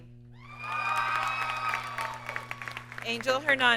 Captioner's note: audience cheers and applauds